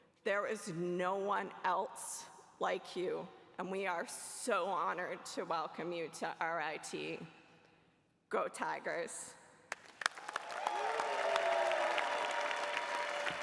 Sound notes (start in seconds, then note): 10.1 cheering